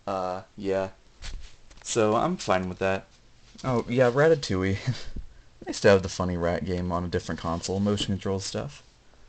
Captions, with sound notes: uh, yeah. So, I'm fine with that. Oh yeah, Ratatouille. *Chuckle* Nice to have the funny rat game on a different console, motion control stuff!